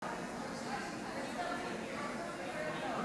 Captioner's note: audience chatter